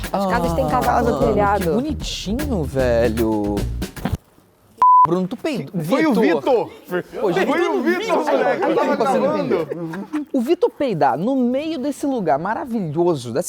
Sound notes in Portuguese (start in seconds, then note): 3.9 som de peido